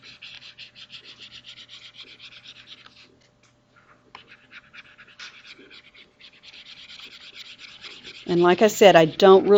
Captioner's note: mouse scribbles